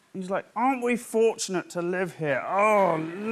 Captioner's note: deep Voice